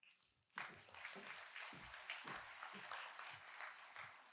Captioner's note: applause